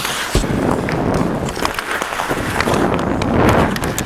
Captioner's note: wind blowing